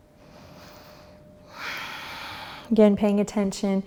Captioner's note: breathing heavily